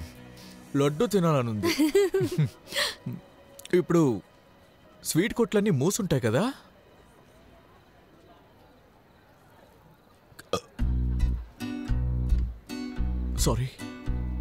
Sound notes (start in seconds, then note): 1.6 Tarini giggling; 10.4 burps